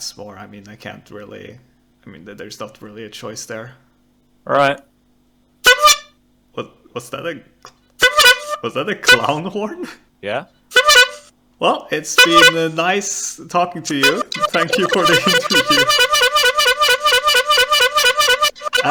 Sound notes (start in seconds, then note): 5.7 Pigmask honks a horn; 13.8 Pigmask is continuously honking horn; 16.8 honking intensifies